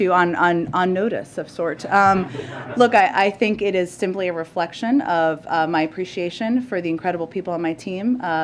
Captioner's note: laughter